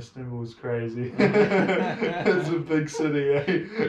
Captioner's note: Gülüşmeler